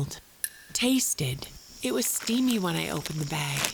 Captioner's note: sniffs the air